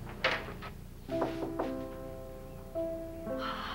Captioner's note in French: Toc! Toc! Toc!